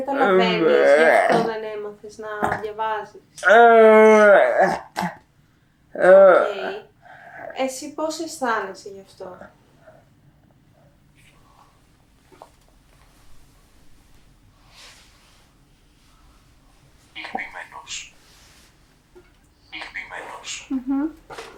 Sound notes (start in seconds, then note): 3.5 achmet – artificial male voice; 17.0 achmet – artificial male voice